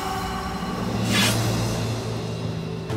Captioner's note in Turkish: Kılıç çekme sesi